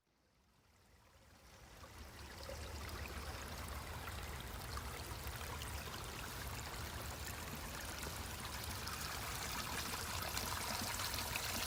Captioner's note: water flows again, rushing and spilling forth